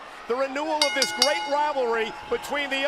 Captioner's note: bell rings